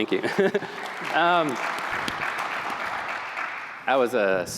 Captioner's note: applause